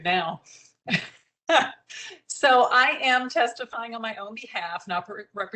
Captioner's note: laughter